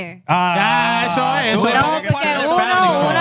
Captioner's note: all Exclaiming